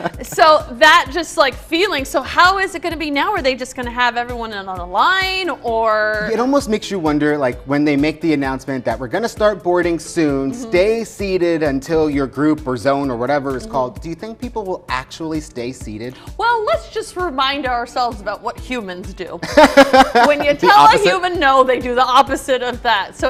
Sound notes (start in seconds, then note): 19.4 laughs